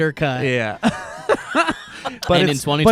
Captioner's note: laughs